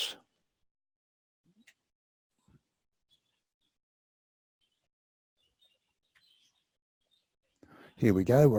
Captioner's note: pause